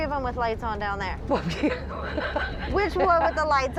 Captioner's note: laughs